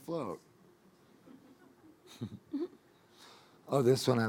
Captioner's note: audience laughing